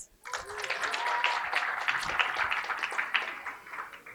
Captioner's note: applause